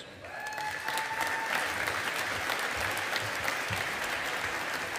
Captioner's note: audience applauding